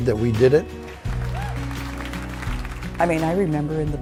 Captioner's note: clapping